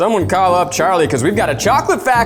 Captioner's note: chuckles